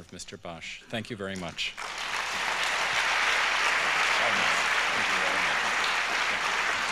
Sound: applause

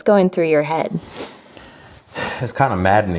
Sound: inhales

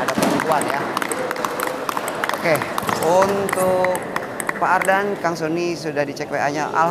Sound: applause

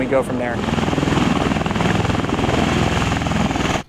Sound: blades rumbling

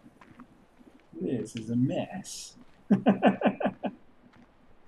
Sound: chuckles

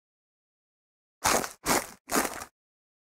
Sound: sound of animal eating herb

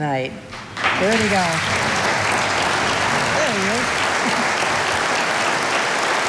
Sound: audience applauding

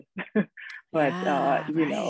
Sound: woman laughs

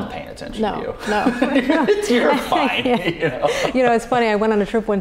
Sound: both laughing

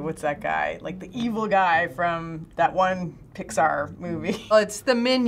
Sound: chuckles

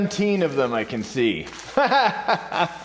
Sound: instructor laughs

